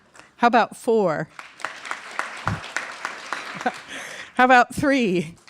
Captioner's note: mild applause; applause